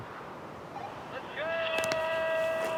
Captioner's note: phone bleeping